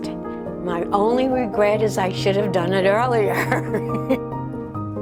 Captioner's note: laughing